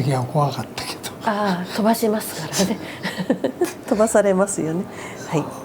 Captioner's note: laughs